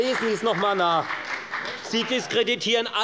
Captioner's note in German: Beifall bei der FDP und der CDU